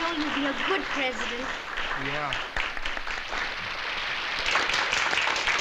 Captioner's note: applause